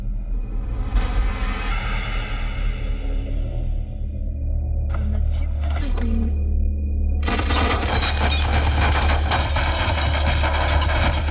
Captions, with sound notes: (suspenseful music) From the tips of your fingers ... (guns firing)